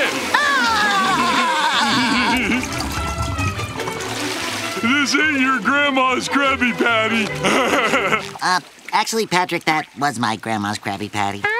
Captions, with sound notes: [laughing] This ain't your grandma's Krabby Patty. [laughing] Er... actually, Patrick, that was my grandma's Krabby Patty.